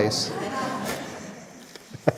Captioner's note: laughs